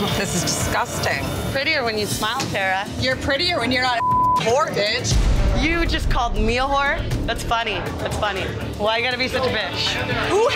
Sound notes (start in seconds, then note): 3.9 beep